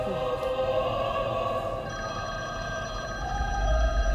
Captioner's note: phone rings